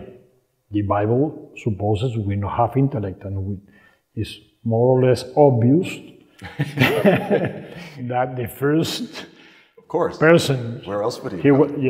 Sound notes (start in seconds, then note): 6.4 laughing